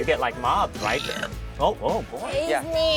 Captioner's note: burps